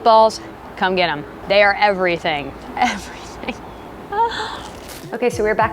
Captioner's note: gasps